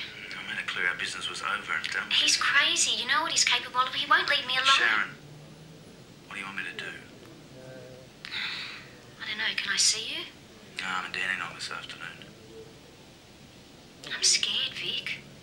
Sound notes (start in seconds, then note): 8.2 sighs